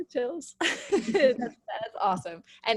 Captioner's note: laughs